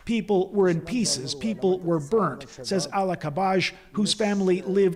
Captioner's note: speaking alternate language